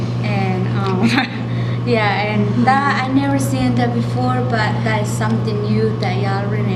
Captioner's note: laughs